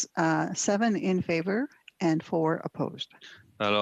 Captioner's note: speaking French